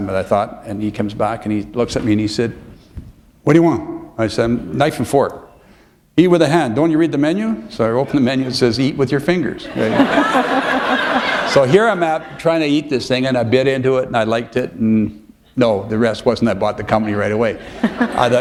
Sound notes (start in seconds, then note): 9.6 laughter